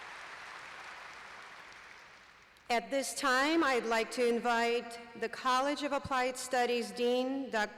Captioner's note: applause